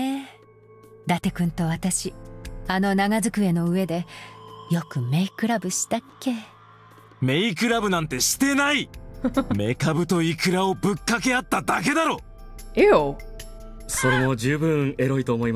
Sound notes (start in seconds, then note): 9.2 chuckles